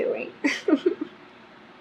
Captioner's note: laughs